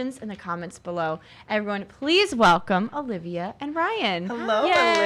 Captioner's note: applauds